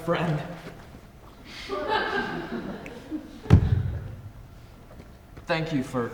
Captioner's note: audience laughs softly